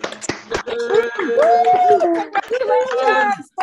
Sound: all applauding and cheering

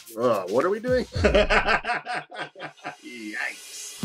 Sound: Eric laughing

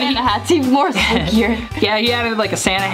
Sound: laughs

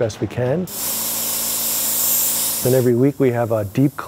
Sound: spraying

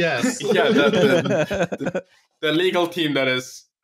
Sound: laughter

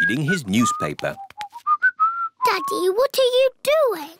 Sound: whistling

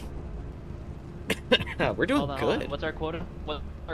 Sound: cough

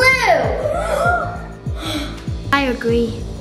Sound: children gasping

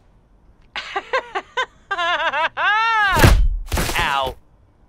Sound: laughs

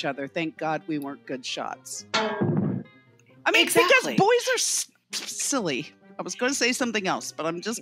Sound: thwack!

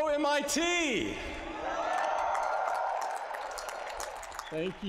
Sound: applause

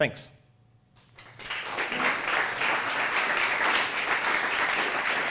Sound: applause

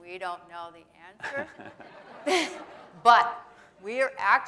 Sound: laughter

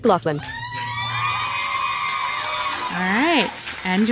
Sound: crowd applauding

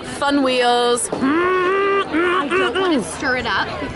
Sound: grunting

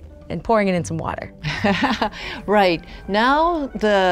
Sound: laughs

